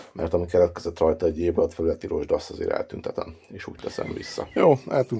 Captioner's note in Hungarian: horkantás